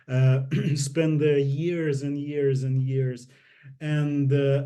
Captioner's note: clears throat